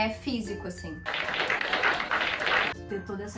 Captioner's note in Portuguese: Aplausos